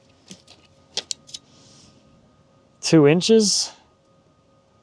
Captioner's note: none